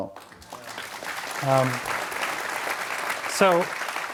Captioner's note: audience applauds